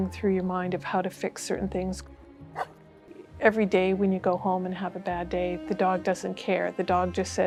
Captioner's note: dog bark